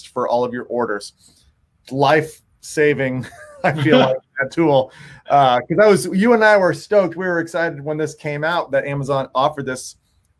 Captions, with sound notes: for all of your orders. Life saving (laughing) tool. 'Cause that was, you and I were stoked. We were excited when this came out, that Amazon offered us,